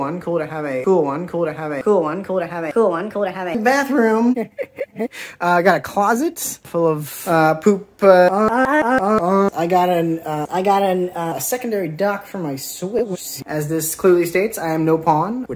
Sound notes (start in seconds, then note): 3.7 heh hih hih heh